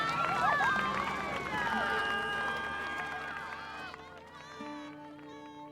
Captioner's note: cheering; cheering